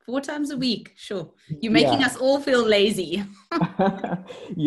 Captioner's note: laughs